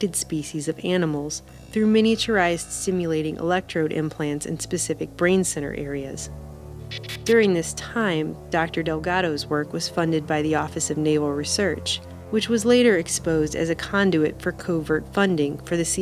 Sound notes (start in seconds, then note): 6.8 static